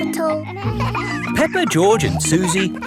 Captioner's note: kids laughing